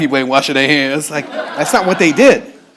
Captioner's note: audience laughing